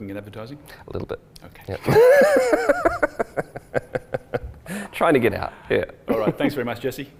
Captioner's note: laughs